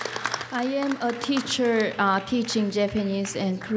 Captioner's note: applause